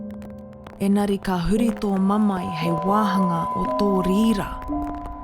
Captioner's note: foreign language